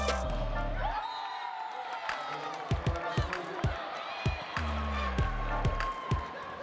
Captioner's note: upbeat music; cheering; applause; cheering; upbeat music